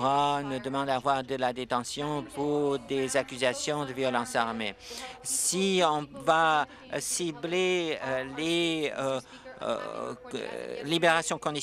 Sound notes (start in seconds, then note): none